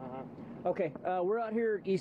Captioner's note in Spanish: habla en ingés